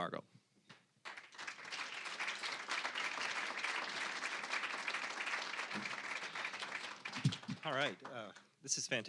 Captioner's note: applause